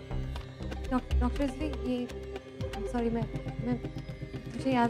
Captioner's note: Stammering